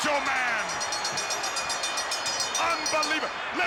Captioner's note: bell rings